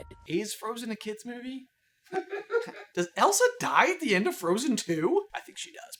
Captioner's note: laughter